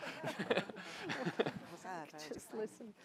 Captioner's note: laughs